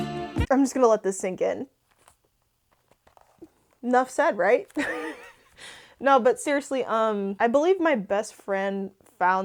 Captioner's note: laughs